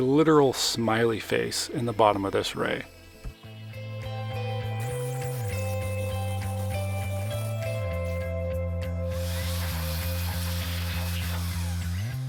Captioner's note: gentle music; water splashing